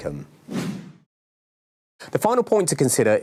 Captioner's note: air whooshing